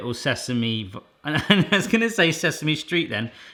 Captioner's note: laughing